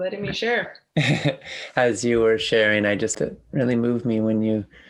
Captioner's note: laughs